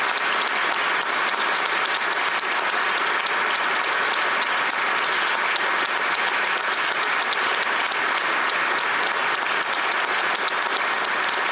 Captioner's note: applause